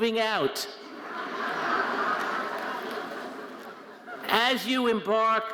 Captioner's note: audience laughing